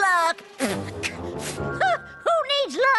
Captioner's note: scoff